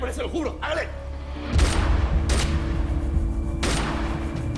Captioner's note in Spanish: Disparos